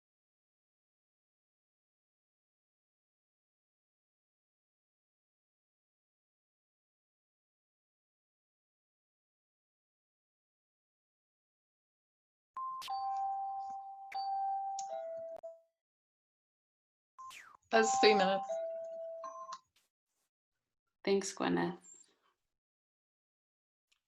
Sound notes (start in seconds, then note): 12.6 pinging sounds